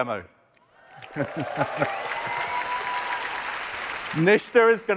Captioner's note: applause